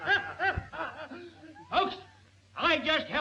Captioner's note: all laughing